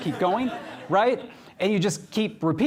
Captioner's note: laughter